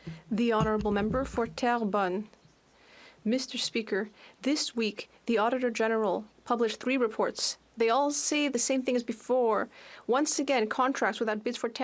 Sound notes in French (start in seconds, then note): 2.1 voix de l'interprète